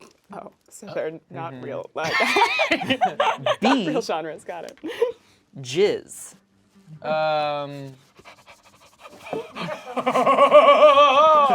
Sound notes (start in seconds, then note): 2.1 laughs